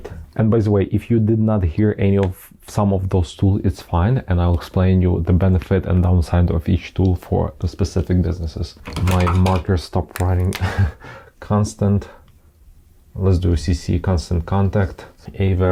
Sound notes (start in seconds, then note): 10.6 laughs